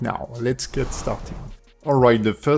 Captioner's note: air whooshes